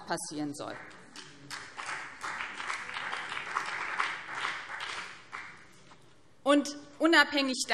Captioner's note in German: Beifall BÜNDNIS 90/DIE GRÜNEN